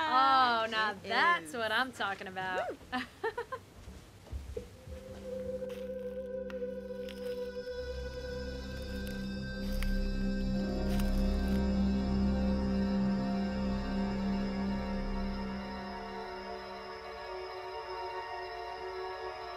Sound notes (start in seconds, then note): 5.9 suspenseful whir